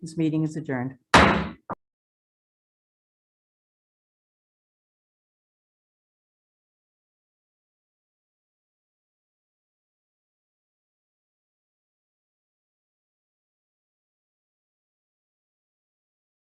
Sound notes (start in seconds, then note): 1.1 gavel bangs